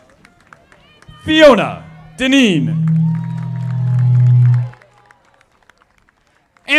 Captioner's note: audience applauding